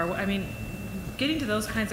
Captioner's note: none